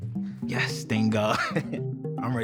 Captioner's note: chuckles